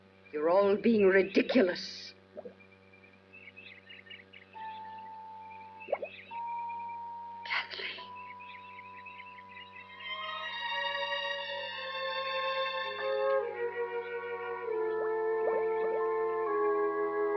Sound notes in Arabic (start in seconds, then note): 2.3 فقاعة الماء; 14.1 فقاعات الماء